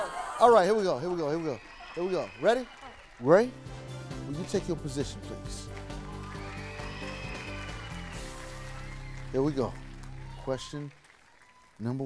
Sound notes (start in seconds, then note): 5.4 upbeat music; 8.4 cheering